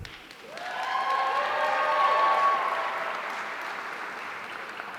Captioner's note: audience cheering